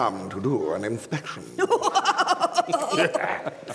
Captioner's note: rumpy-pumpy giggles dirtily